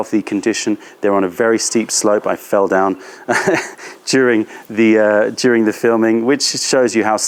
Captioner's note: laughter